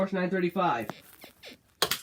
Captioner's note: bed squeaks